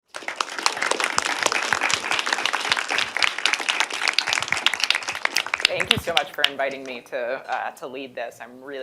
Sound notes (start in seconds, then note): 0.0 applause